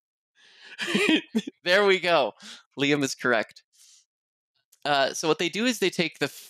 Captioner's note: laughs